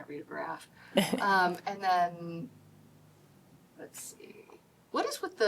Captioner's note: laughter